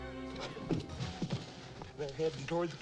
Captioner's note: men gasp